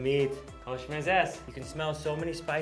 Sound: speaks in foreign language

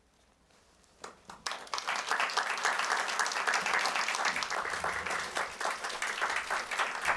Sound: applause

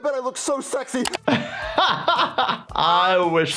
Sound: laughs

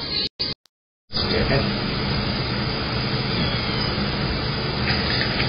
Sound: meows

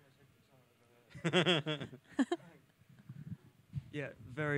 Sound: laughs

